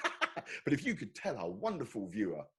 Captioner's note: laughing